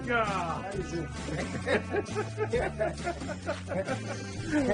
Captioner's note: laughing